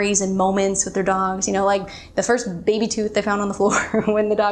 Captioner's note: laughs